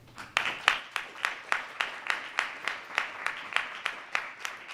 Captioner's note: audience applause